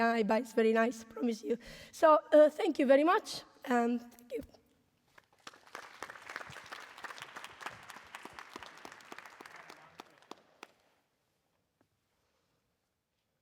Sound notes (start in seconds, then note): 5.1 applause